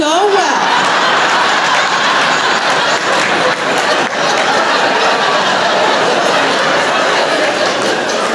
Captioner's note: laughter